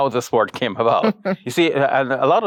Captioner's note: chuckles